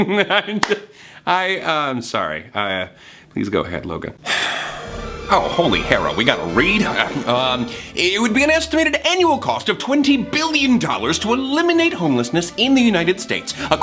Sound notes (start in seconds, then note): 0.0 laughs; 0.3 laughing; 4.2 sighs